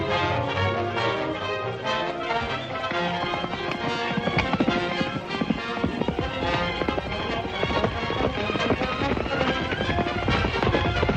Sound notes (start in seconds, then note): 3.1 hooves clomping